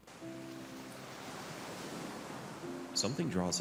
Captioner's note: serene music begins; waves crash